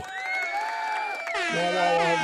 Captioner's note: cheering